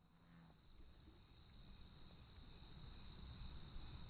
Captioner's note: cicadas buzzing